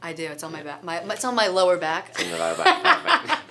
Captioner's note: laughing